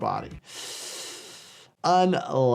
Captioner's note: hissing